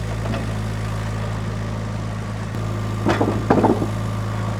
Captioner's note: engine rumbling